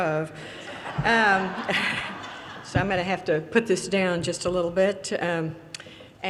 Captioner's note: audience laughter